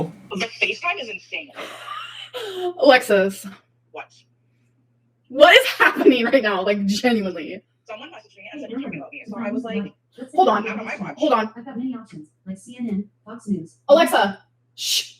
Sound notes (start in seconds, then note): 12.2 faintly speaking